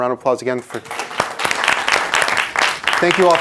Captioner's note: everyone applauding